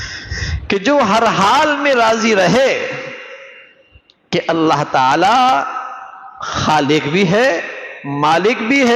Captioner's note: sigh